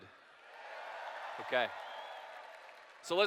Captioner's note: cheers